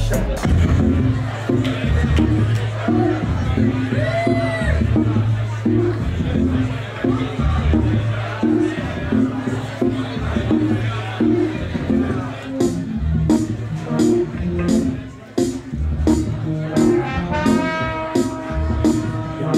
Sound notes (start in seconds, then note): 1.6 crowd murmurs